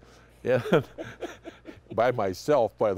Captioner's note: laughing